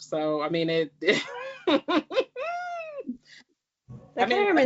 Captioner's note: laughs